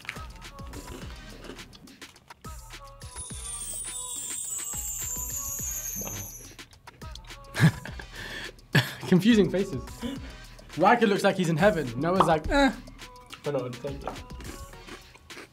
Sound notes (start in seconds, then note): 3.1 wind chimes ringing; 7.5 laughs